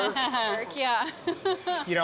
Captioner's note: laughing